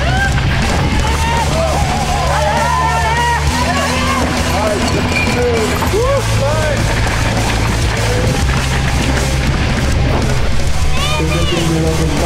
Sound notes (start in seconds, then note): 1.5 crowd; 1.5 dramatic music